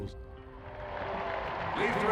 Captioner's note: crowd cheering